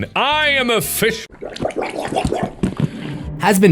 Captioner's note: fish Sounds